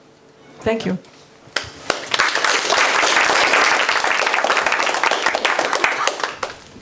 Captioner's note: applause